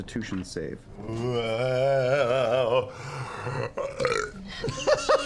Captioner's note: belches